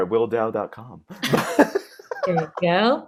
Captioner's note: laughing